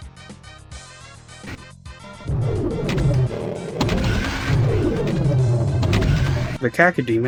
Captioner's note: cacodemon sounds